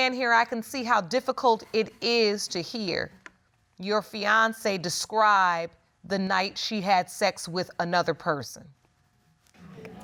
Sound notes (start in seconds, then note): none